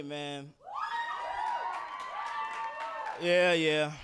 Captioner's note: audience cheering